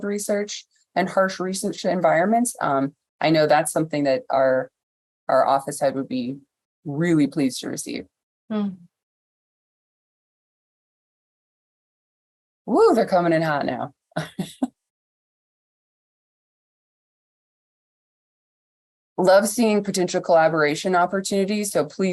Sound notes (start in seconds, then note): 17.0 laughter